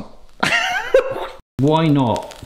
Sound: laughing

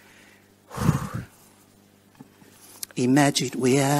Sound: exhales

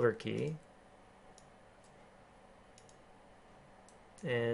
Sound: keyboarding

